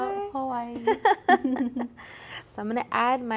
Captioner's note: both laughing